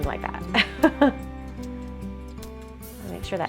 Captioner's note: laughs